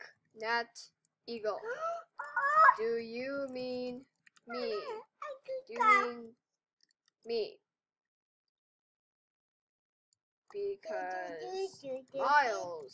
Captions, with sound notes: *Gasp* Uh oh! Do do do do do do!